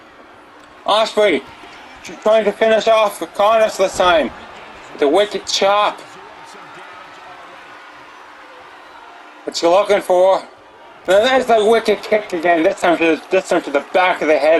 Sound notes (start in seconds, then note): 5.9 applause